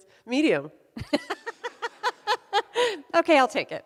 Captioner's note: laughs